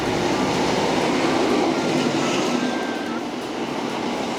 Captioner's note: train blaring; train rumbling